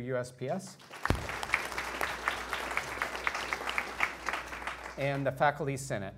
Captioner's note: attendees applauding